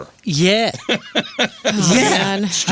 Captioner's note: laughter